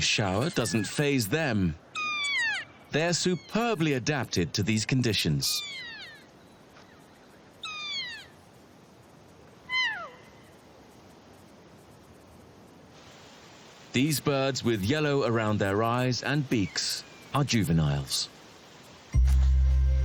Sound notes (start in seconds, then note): 1.9 Kea squawks; 7.6 keas squawking